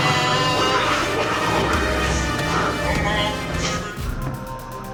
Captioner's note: snake hissing